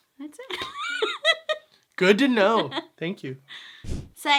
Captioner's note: laughs